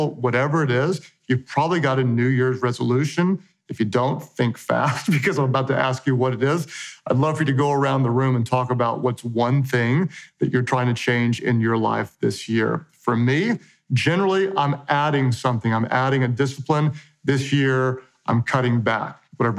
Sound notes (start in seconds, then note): 4.8 chuckles